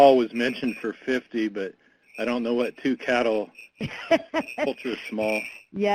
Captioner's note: laughter